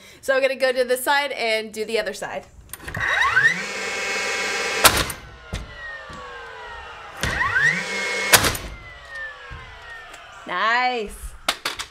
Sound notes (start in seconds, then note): 2.9 whirring; 4.8 bang; 7.5 whirring; 8.4 bang